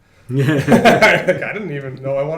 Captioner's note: laughter